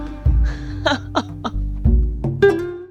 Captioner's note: laughs